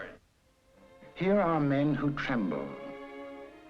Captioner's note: voiceover